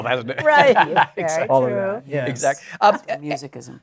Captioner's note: laughs